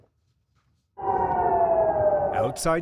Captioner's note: sirens blaring